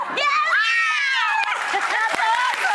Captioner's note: exclaiming; audience applauding